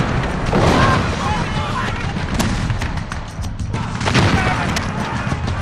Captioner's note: cannons booming; soldiers chattering